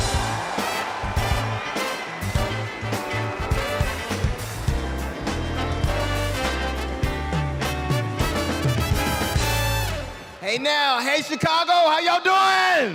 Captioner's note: cheers and applause